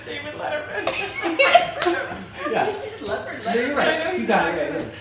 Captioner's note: laughing